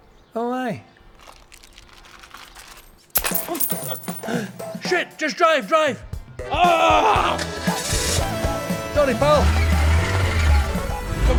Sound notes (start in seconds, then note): 1.0 rustling; 2.0 clanging; 4.1 gasping; 6.7 yelling; 10.0 tyres screeching